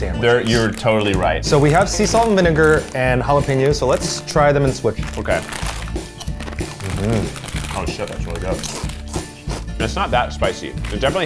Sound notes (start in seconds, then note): 6.0 upbeat music; 9.1 crunches; 9.6 upbeat music